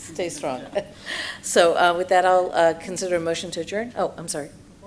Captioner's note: laughs